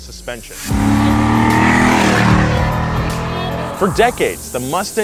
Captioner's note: engine noises